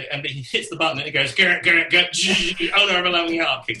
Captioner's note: mimic drums